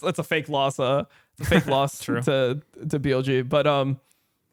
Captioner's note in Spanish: risas